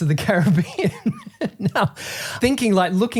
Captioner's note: laughing